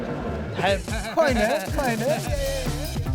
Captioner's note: laughs